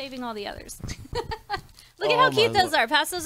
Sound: chuckles

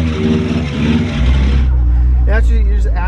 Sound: laughs; engine revving

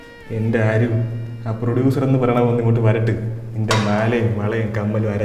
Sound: none

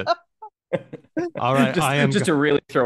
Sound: laughter

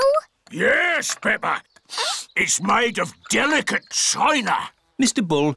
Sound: sniffs

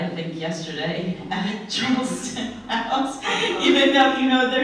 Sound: laughs

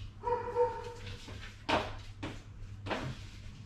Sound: A dog suddenly barking kkkkk

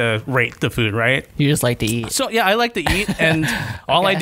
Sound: chuckles

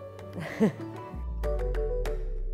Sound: laughs

